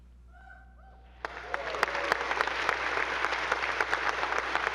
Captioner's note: audience applauding